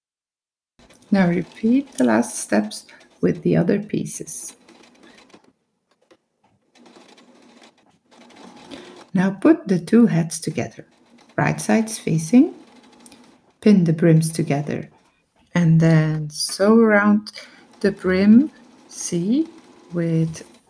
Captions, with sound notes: now repeat the last steps with the other pieces (sowing machine noise) now put the two hats together right sides facing, bend the brims together and then sew around the brim C with uh half an inch